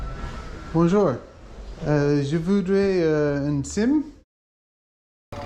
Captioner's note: French